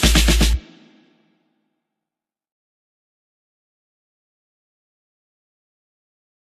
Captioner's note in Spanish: silencio